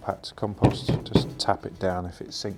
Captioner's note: plant pot knocking